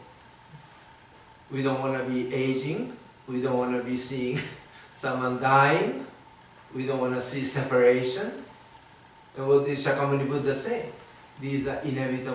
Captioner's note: chuckles